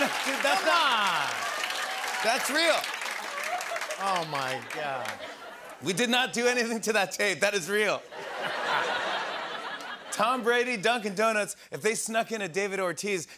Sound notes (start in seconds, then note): 8.1 laughter